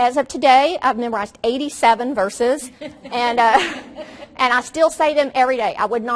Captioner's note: audience laughs